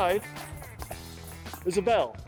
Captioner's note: ball jingles